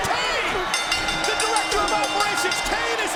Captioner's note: bell rings